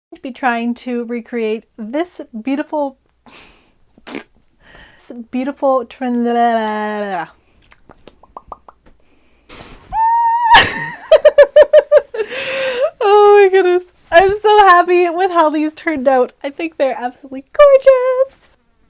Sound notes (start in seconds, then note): 9.9 squeals; 10.0 giggling